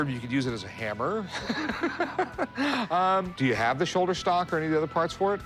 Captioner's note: laughs